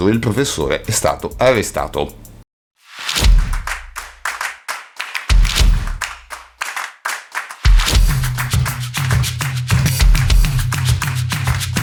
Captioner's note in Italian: Applauso